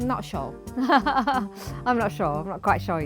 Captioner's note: laughing